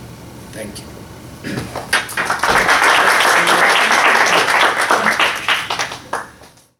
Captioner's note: applause